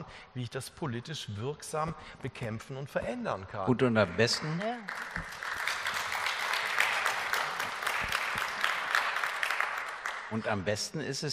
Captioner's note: Applaus